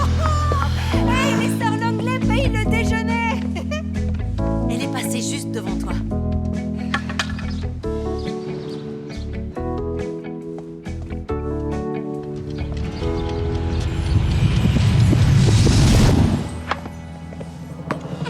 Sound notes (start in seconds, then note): 3.5 laughing; 14.9 whooshing